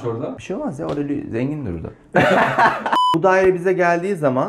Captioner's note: gülüşme